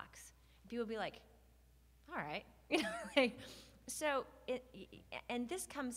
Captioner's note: laughs